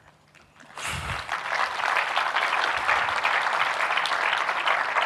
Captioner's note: audience clapping